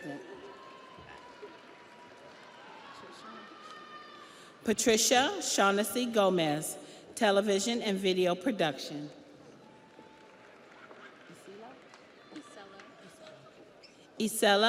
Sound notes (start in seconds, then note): 4.0 audience applauds; 4.0 audience cheers